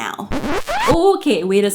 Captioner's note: record scratch